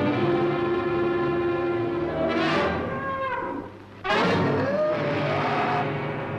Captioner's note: suspenseful orchestral music; bull roaring